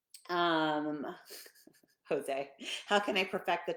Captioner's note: laughing